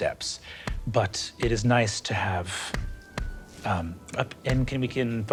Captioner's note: staff thudding